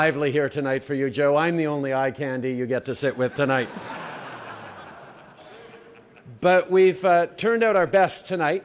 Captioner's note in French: Rires